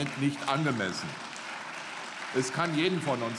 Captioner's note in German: Beifall